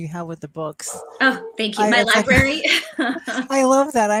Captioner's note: laughs